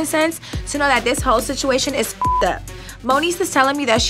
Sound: beep

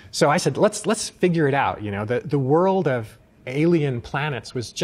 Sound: none

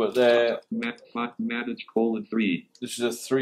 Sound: computerised voice

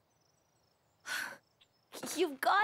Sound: sigh

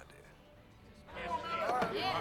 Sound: patrons shouting encouragement

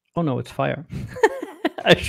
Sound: laughing

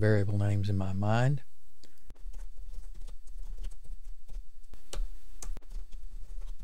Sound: clicks

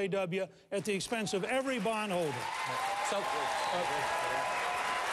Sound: applause

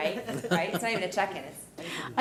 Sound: laughing

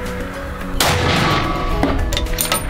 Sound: bam!!!

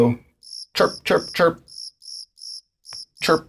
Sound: cricket sounds

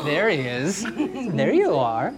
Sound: giggles

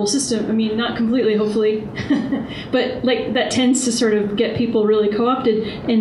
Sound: laughs

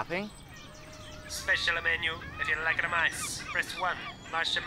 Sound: robot Voice

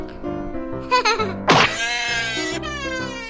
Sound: cries in baby

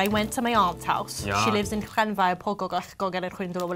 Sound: speaks Welsh

